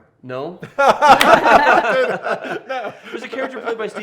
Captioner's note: laughing